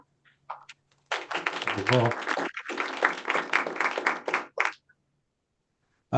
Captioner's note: applause